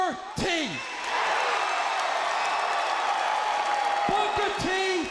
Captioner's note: crowd cheering